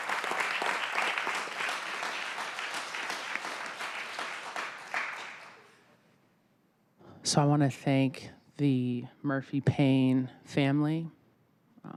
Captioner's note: applause